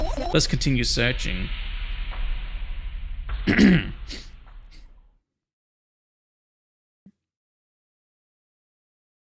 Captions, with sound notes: Let's continue searching [clears throat]